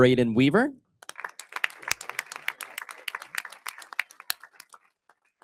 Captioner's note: audience applauding